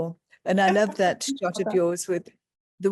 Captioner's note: laughing